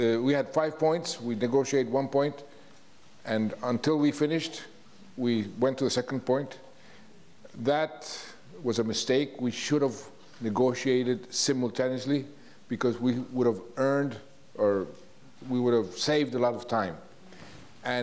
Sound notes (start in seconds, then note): none